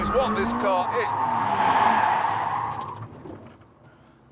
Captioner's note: tyres screeching